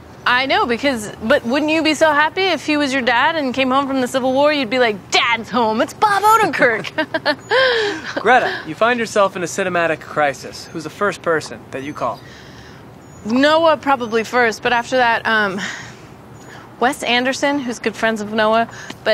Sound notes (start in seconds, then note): 6.6 both laughing